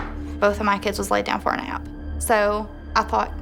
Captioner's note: creaking